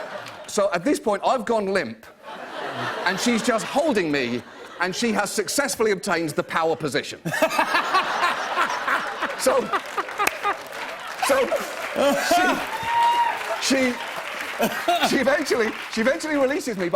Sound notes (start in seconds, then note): 0.0 laughter; 7.2 laughter; 10.6 applause